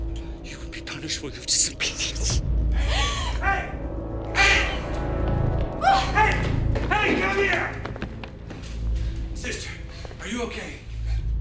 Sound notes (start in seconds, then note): 4.3 Alejandra shrieks